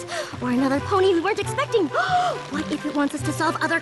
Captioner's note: gasp